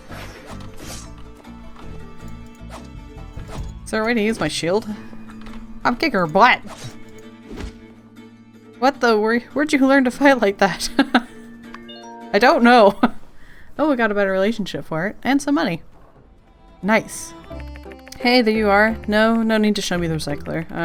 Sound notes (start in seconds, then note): 10.8 laughs